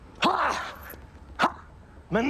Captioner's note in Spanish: Exclamaciones